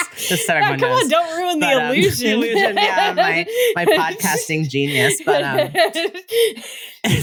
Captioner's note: laughter